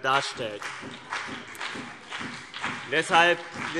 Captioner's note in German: Beifall CDU und BÜNDNIS 90/DIE GRÜNEN